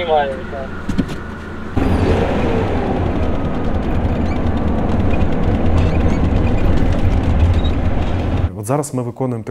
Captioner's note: engine sounds